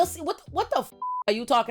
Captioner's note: beep